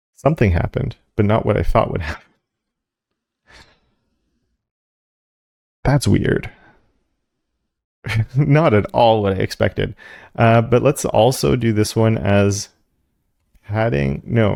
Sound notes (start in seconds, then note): 4.7 laugh